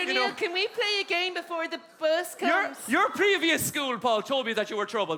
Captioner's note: whispers